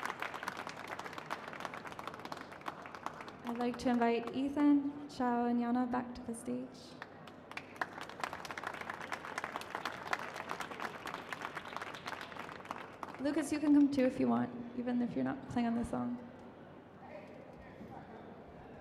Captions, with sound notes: I'd like to invite Ethan, Chao and Yana back to the stage. (applause) Lucas, you can come too if you want, even if you're not playing on the song.